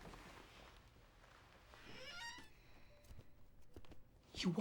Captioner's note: door creaks open